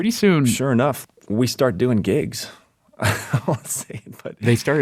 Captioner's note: laughs